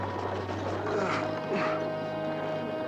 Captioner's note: groaning